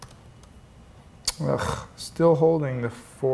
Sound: grunts

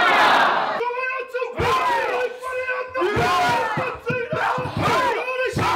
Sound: Māori language shouts

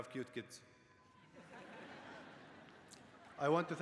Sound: laughter

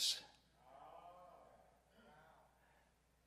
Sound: crowd

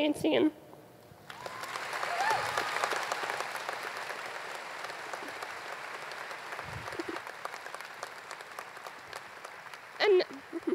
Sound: applause

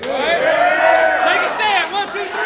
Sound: everyone cheering

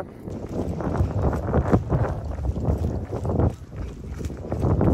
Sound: wind blowing

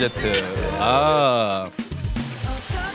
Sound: cheers

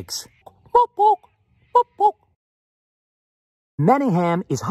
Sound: territorial owl sound

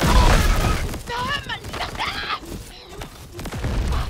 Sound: Perez screaming

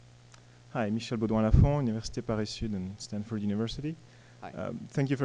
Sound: voiceover

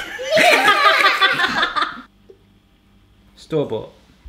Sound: laughter

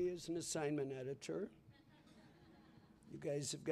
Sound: laughter

